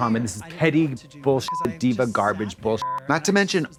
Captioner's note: beep